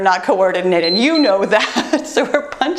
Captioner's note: timer beeps